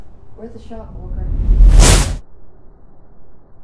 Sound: whooshes

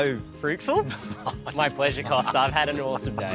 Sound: laughs

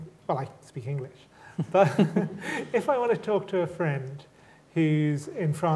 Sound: chuckles

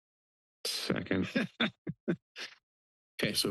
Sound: laugh

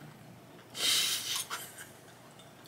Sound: laughs

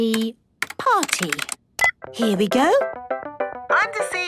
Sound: beep

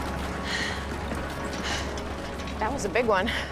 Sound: breathing heavily

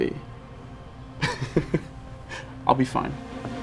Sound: chuckling

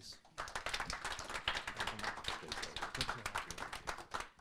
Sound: audience applauding

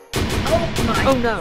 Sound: explosions

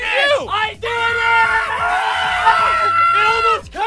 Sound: cheering

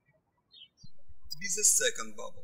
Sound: birds chirping

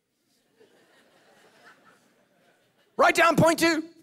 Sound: congregation laughing

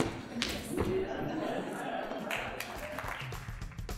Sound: audience laughing; applause

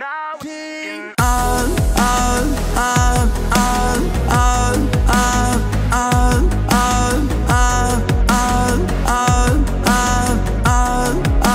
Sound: sounds of getting pounded in the ass

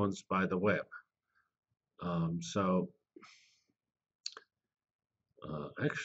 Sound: pause

